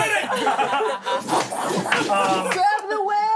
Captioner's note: everyone laughs